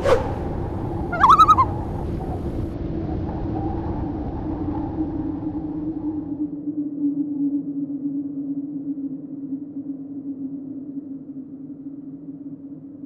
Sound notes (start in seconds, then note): 0.1 loon call